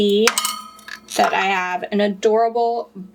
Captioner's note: metal clanging